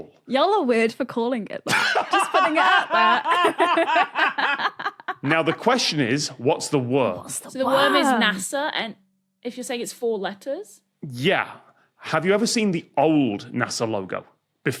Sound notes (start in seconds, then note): 1.7 laughs uproariously; 3.4 laughs